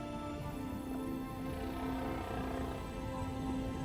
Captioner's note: whales groaning